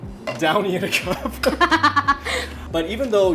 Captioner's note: both laugh